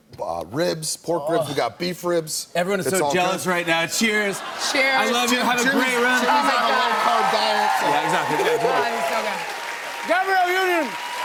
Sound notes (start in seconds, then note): 9.1 cheers and applause